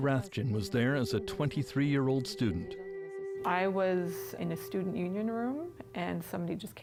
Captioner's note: speaking French